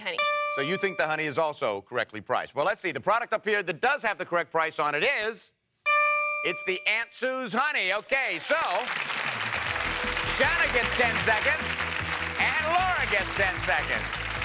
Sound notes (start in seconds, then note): 5.9 robotic bell dinging; 7.9 audience applauding; 9.2 upbeat game show music